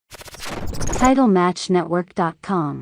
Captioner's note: logo glitching